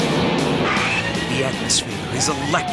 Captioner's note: riders screaming